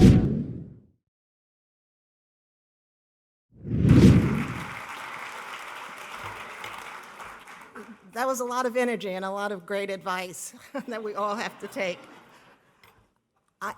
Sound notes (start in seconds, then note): 0.1 air whooshing; 4.0 audience applauding; 10.5 laughing; 10.6 audience laughing